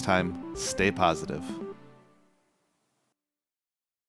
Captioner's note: electronic beeping